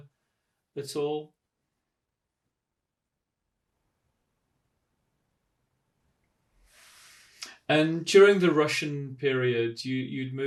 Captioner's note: pauses for 6 seconds